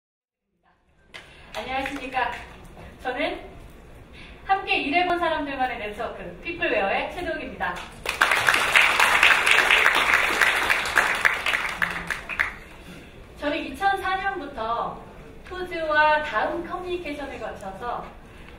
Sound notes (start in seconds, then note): 7.8 applause